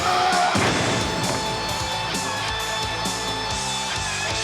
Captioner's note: man shouting